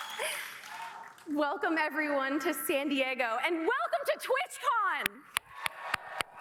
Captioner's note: cheers